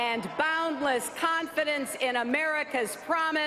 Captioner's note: cheers